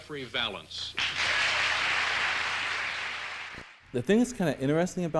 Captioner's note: audience applauding